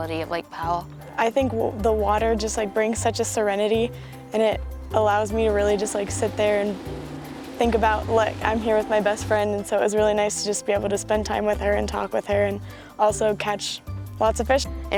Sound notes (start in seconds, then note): none